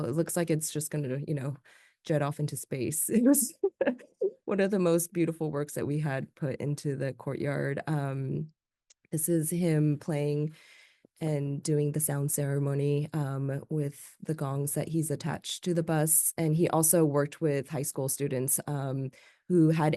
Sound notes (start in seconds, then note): 3.2 laughs